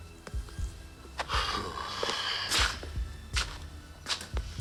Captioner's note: sighs